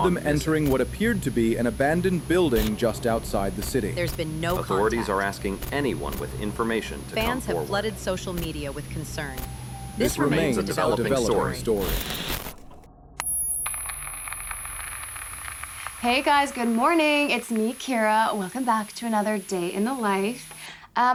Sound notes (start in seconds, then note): 11.7 static buzzing; 13.2 high-pitched tone ringing; 13.2 text clicking